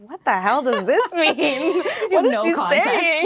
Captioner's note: laughing